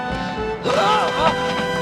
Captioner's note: screams